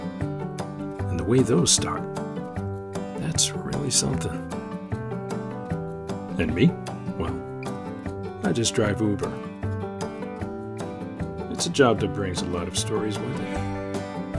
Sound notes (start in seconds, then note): none